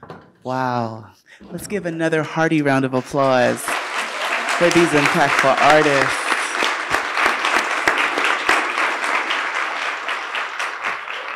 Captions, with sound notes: - Wow. Let's give another hearty round of applause for these impactful artists. (audience applauding)